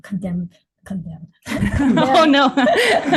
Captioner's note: laughs